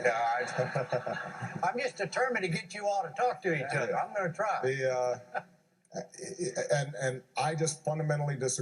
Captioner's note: laughter